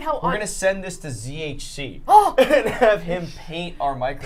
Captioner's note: gasps